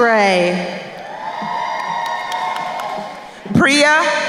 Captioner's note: crowd cheering